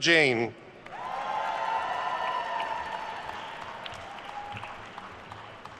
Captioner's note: attendees cheering and applauding